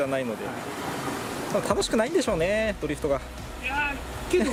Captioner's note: laughs